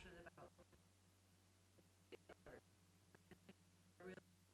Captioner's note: stuttering audio